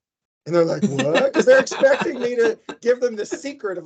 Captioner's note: laughing